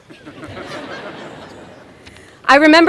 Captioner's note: laughter